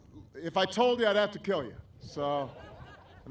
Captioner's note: laughter